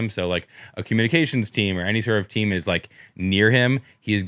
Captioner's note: none